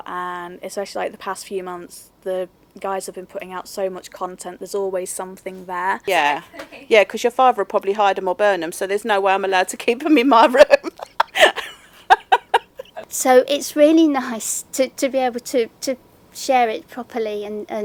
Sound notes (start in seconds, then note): 10.5 loud laughing